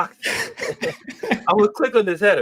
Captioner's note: laughter